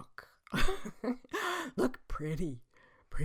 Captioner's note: laughs